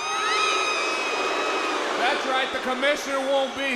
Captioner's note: crowd cheering